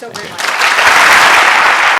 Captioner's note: applause